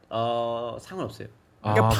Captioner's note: eh